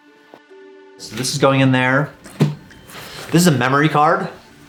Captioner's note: gentle music; book thudding